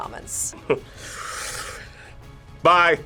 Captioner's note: laughs